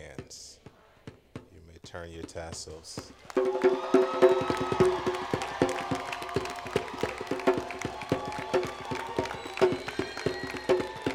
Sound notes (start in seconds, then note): 9.2 cheering